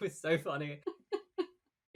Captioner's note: laughs